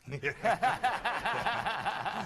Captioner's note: laughter